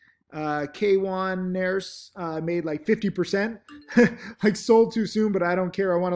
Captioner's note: chuckling